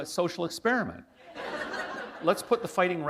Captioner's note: laughter